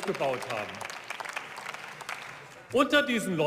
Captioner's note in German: Beifall